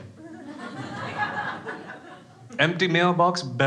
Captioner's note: crowd laughing